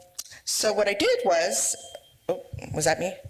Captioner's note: microphone feedback